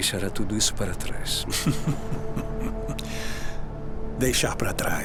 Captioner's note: laughing